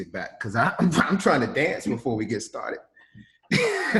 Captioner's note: laughs